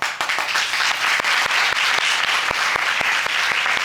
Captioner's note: audience applauding